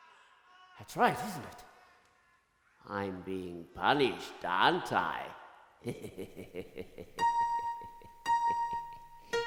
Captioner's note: laughs